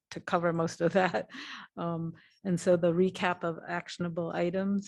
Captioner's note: laughter